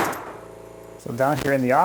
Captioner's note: nail gun firing